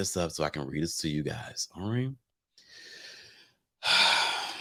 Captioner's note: sighs